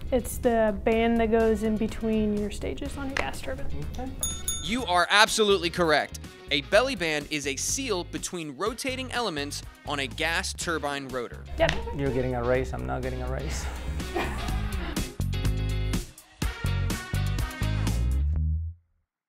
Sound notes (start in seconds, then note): 4.2 ding ding; 14.9 upbeat music playing